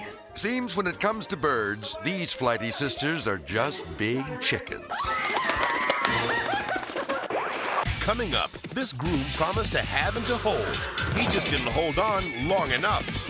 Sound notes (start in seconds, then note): 4.9 screaming; 5.0 wings flapping